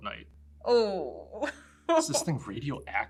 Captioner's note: laughs